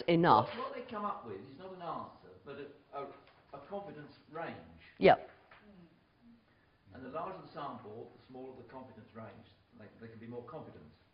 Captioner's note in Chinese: 無聲